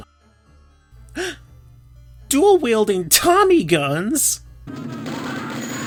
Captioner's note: gasp